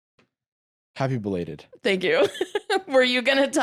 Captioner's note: laughs